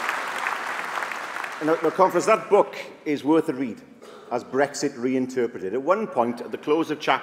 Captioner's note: applause